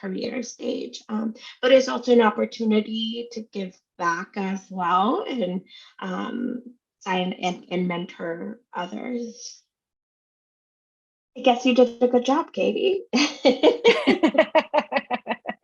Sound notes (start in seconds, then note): 13.6 laughs